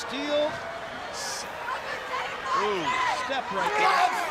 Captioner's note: crowd chatter